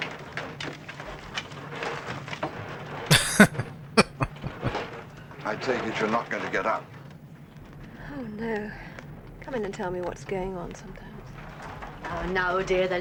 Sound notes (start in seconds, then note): 3.1 laughing